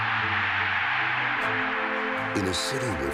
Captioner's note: cheers and applause